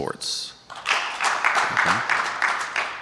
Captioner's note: audience applauding